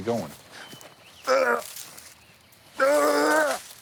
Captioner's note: throws up